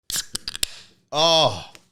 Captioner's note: can opening